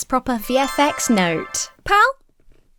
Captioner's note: stars twinkle